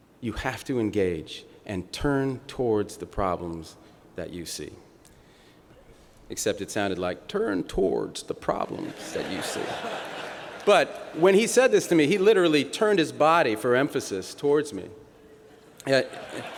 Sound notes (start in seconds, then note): 6.4 bill clinton impersonation; 16.0 laughter